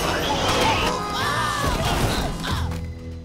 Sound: screaming

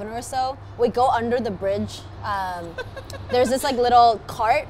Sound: giggles

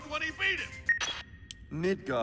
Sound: remote beeps

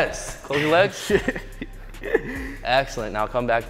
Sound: laughs

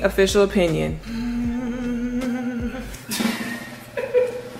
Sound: humming; drum rolling; laughing

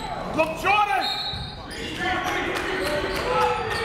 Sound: whistle

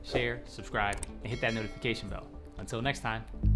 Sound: bell rings

